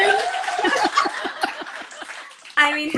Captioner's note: all laugh